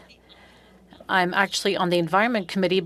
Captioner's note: speaking French